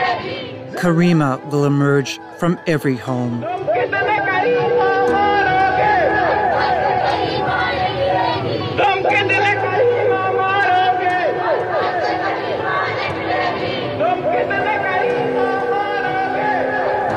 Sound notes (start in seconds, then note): 0.0 Chanting in Urdu: Har ghar se Karima niklegee; 3.9 chanting continues